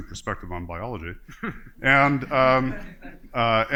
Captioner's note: laughter